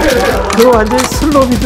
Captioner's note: gun loading sound effect